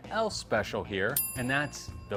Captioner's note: bell dinging